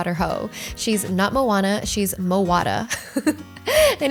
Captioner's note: laughs